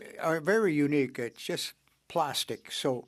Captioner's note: speaking French